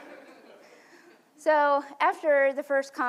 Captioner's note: laughs